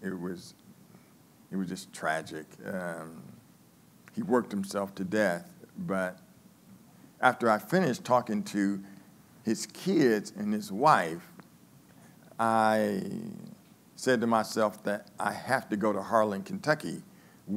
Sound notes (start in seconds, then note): none